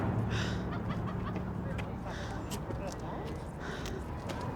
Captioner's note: hard breathing